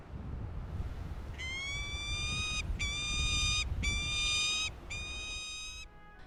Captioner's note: peregrine falcon wailing